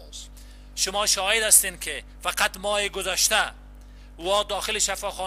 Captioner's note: translator speaking in foreign language